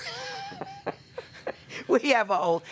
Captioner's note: laughing